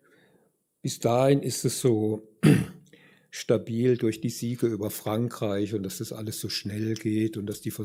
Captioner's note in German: räuspern